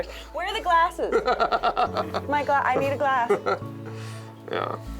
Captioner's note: laughs